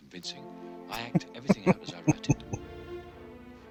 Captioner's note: chuckling